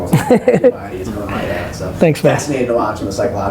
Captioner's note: laughs